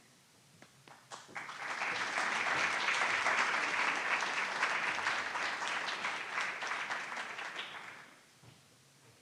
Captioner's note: applause